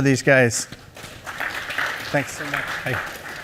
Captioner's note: applause